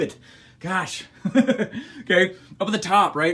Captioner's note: laughs